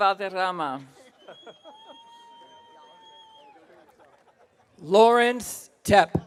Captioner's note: attendant laughs